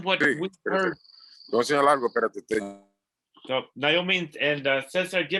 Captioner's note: foreign languange